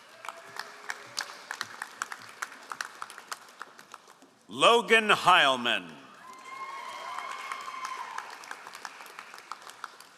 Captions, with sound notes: (all applauding) Logan Heilman. (all applauding)